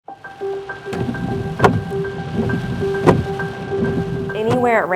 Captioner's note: windshield wiper sounds